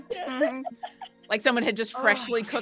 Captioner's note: all laughing